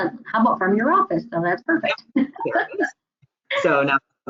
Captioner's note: laughs